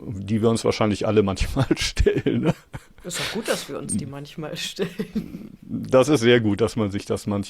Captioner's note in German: gelächter